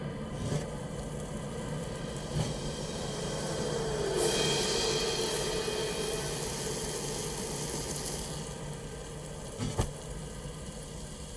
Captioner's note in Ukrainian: шкварчання; дме вітер, грає загрозлива музика